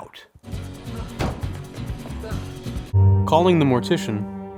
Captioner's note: upbeat music; door slamming